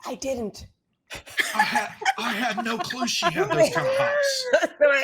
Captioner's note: all laughing